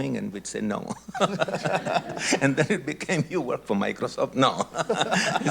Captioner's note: laughs